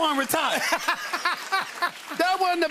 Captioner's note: laughter